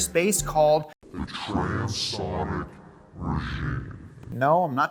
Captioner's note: heavy Voice